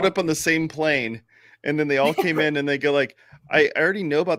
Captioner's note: laughs